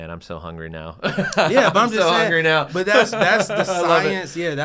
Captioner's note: laugh